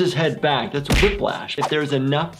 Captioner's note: smacks